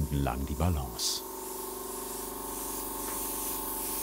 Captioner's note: whirring, airbrush hissing